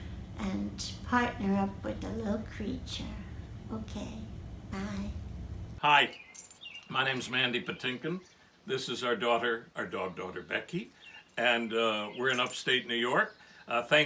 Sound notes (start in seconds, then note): none